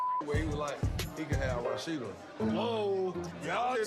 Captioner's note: beep